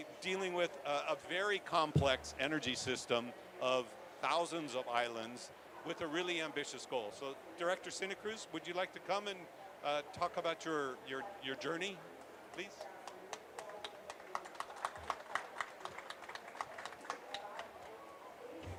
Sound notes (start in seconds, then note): 14.8 applause